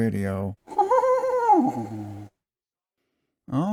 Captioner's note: "Beavis" chuckle